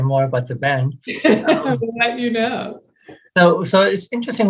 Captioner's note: laughing